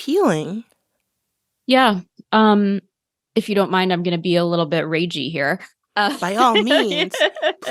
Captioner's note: laughter